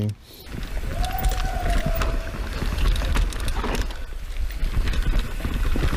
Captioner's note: cheering and laughing